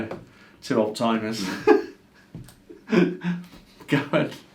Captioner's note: laughs